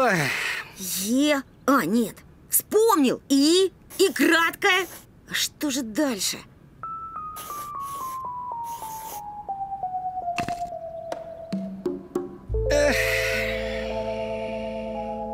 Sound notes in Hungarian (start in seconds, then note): 12.6 sóhajtozás